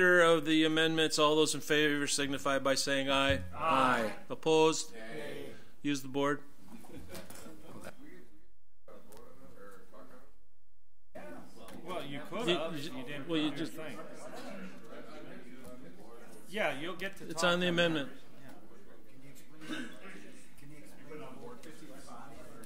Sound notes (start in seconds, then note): 7.2 overlapping chattering; 13.2 overlapping chattering; 20.0 overlapping chattering